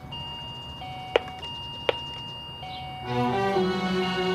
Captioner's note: doorbell ringing